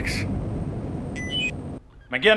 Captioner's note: COMM-LINK beeps